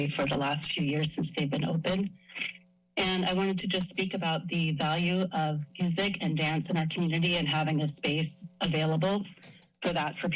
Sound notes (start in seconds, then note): none